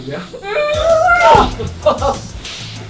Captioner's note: muffled screaming; laughs